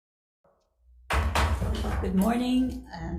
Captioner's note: gavel banging